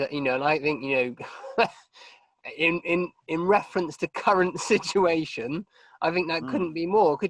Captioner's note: laughing